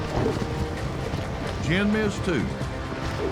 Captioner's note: hoofbeats